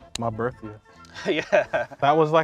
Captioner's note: laughs